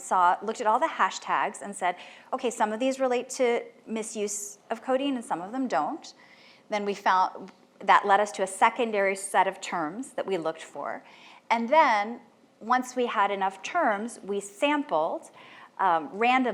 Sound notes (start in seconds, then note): none